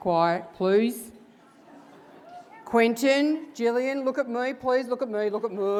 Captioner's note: laugh